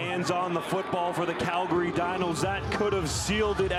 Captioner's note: crowd Noise